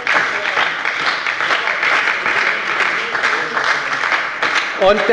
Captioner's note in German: Beifall bei der SPD